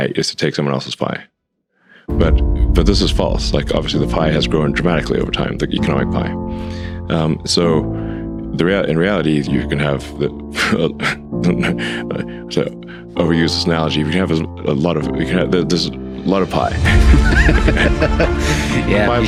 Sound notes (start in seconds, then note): 11.4 Elon laughing; 16.9 Lex laughing